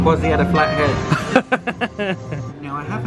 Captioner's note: laughs